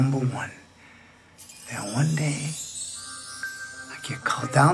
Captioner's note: chimes